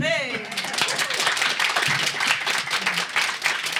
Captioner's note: applause